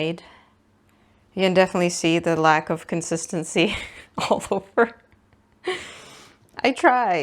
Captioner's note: laughs